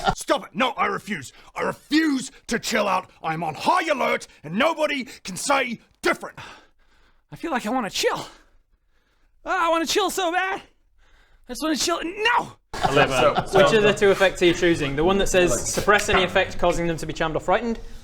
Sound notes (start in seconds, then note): 6.4 sigh